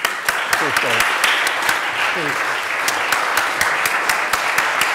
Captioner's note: applause